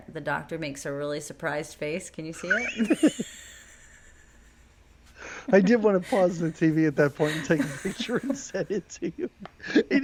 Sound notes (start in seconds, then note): 2.3 laughing